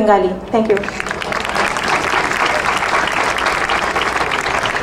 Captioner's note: crowd applauding